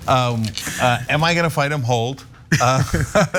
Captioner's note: laugh